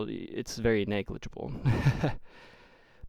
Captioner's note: laughing